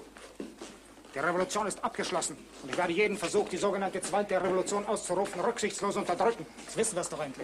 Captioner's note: impersonating Hitler